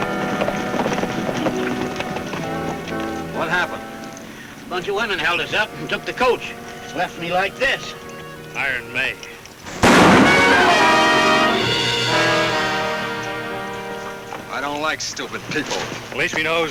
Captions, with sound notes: What happened? - Bunch of women held us up and took the coach. Left me like this. - Iron Mae. (gun bangs) (dramatic music) - I don't like stupid people.